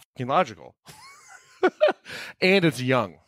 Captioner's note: laughing